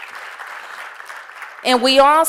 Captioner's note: applause